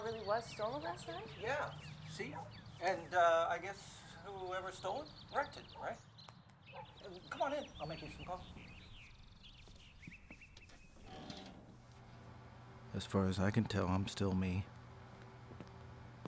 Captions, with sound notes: - So the car really was stolen last night? - Yeah, see? And, uh, I guess whoever stole it, wrecked it. Right? Come on in, I'll make you some coffee. (birds tweet) As far as I can tell, I'm still me.